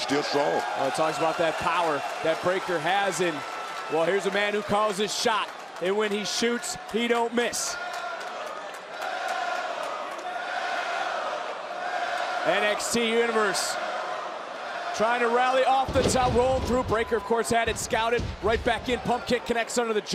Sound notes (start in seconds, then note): 1.2 crowd cheers; 9.7 crowd chants "melo"